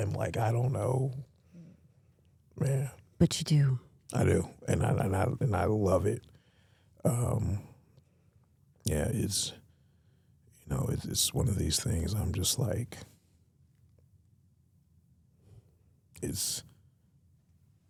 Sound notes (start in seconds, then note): none